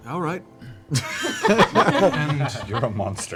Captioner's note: laughter